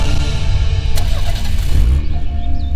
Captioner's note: Engine starts